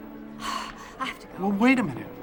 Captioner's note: exhales sharply